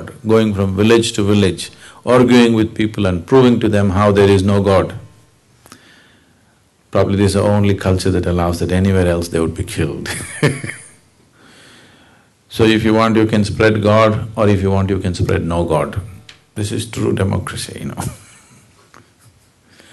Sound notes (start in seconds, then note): 10.1 laughs; 18.0 laughs